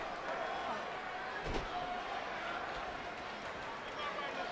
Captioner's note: crowd murmuring